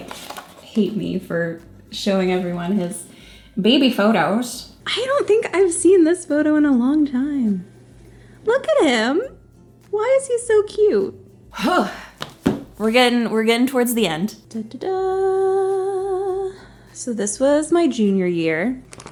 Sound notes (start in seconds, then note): 11.6 exhales